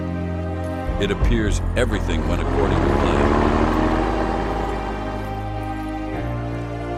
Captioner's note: vehicle sound